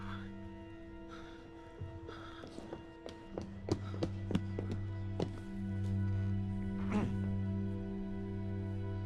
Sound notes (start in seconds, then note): 1.7 panting; 2.4 footsteps; 6.8 clears throat